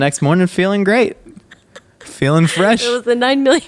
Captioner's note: laughing